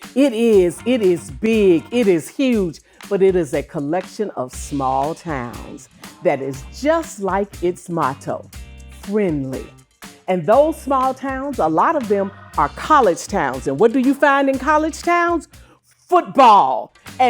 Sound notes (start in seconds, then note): none